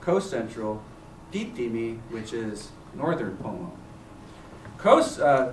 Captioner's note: non-english